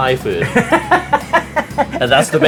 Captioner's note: laughs